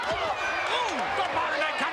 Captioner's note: spectators cheering